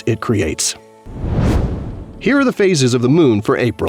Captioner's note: whoosh